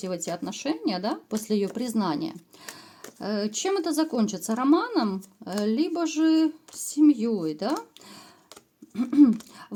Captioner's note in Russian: откашливается